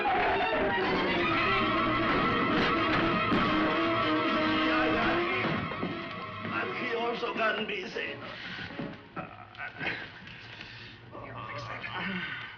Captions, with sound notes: [SPEAKING SPANISH] Here, let me fix that.